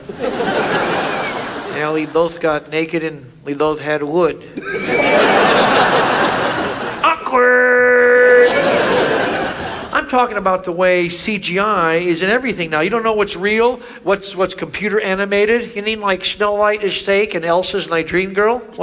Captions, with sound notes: (audience laughs) And we both got naked and we both had wood. (audience laughs) Awkward. (audience laughs) - I'm talking about the way CGI is in everything now. You don't know what's real, what's computer animated. - You mean like snow light is steak and Elsa's my dream girl.